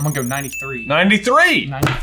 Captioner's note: bell dings